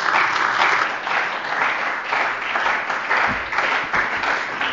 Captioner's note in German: Beifall bei der CDU und dem BÜNDNIS 90/DIE GRÜNEN